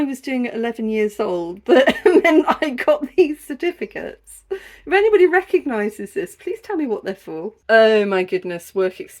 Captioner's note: laughing